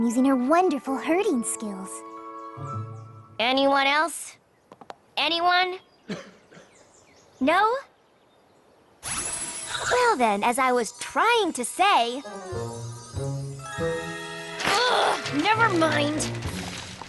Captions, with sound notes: Using her wonderful herding skills. Anyone else? Anyone? No? [ Tinkling ] Well, then, as I was trying to say -- Ugh! Never mind.